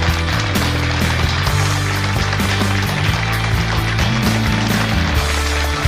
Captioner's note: applause